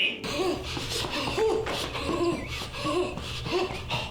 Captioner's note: huffing and puffing